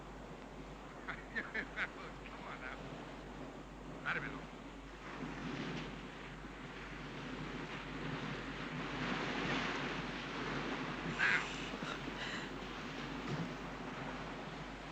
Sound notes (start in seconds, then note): 1.0 laughs; 3.8 Thomas speaks in Spanish